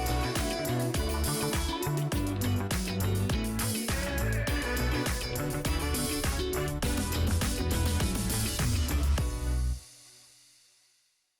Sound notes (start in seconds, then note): 2.0 upbeat music continues; 4.6 air whooshes